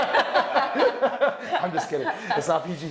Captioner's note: all laughing